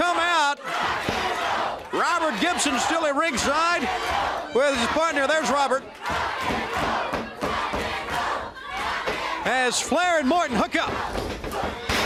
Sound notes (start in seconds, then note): 6.6 crowd cheering